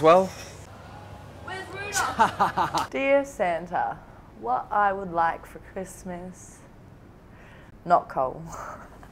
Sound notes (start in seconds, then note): 1.9 laughs